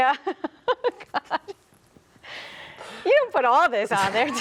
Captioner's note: laughs